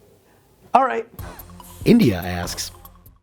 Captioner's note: voiceover